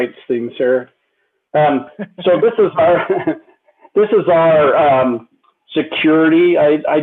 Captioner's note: laughter